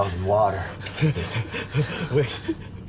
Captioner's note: Michael gasping